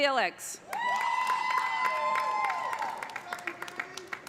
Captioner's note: cheers and applause